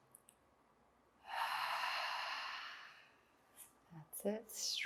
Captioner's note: inhales; exhales